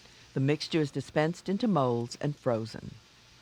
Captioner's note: voiceover